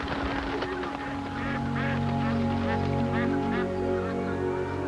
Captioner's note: wings fluttering